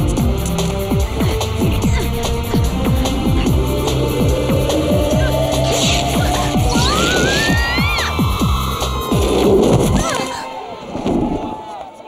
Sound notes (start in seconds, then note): 7.2 fabric ripping